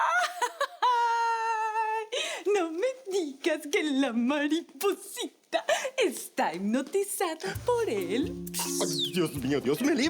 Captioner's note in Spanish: Risas